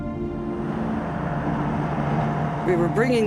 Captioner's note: cars passing